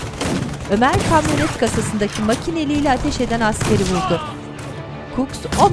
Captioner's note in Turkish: Silah sesleri